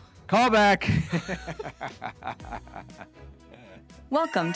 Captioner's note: laughing